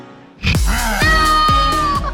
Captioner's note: growls